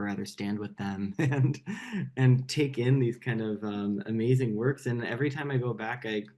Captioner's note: laughs